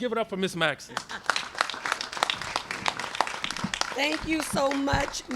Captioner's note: applause